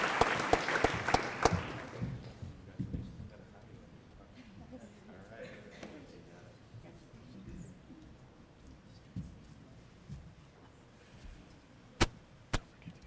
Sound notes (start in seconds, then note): 2.2 applause